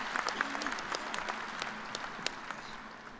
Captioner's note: applause